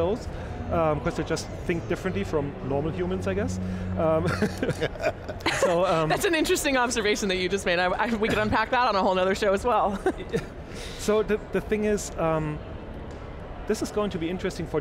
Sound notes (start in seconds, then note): 4.1 all laughing